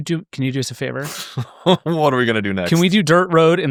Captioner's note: laughing